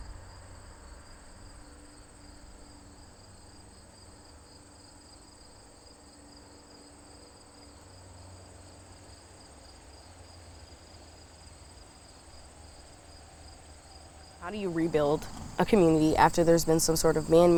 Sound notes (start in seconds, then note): 1.0 crickets chirping